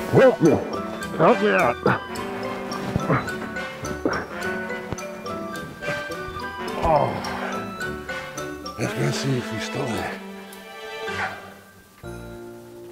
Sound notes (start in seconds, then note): 1.6 grunting; 12.7 gentle festive music